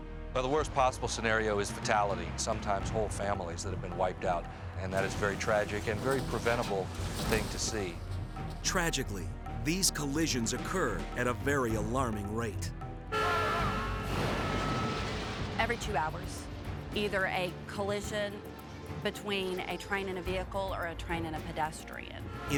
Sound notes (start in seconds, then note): 13.0 horns honking; 13.4 vehicles thudding